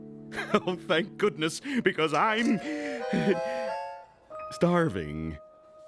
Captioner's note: chuckles; gasps